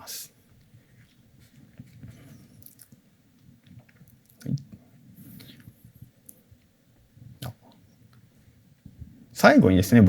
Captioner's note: silence